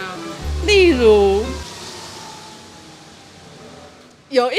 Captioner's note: scooter sound